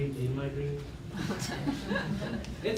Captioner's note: laughter